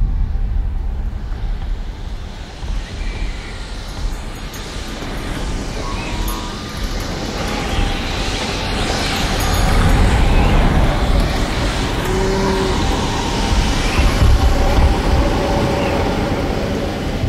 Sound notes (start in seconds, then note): 1.9 sounds of strong wind whipping at houses, trees and livestock